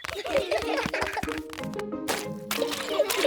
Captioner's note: all giggling